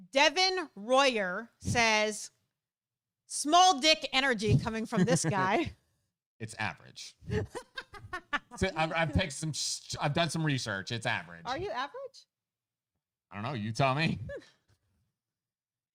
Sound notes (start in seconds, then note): 7.2 laughing